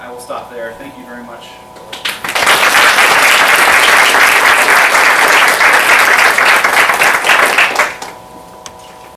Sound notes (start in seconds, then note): 1.9 applause